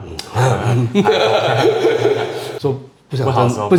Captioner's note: evil laughter